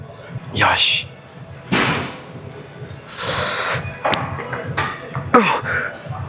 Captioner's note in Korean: 콧방귀